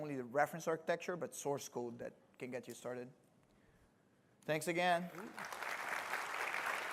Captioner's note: applause